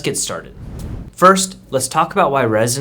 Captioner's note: air whooshing